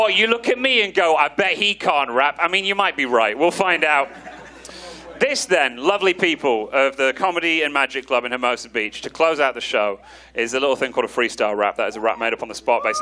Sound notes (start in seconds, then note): 3.7 audience laughing